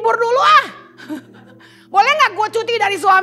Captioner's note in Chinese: 笑声